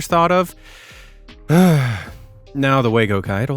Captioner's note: sighs